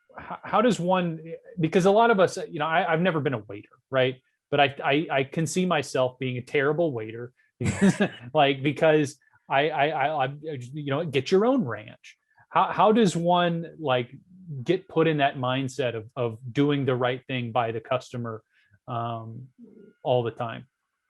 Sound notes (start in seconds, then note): 7.6 laughing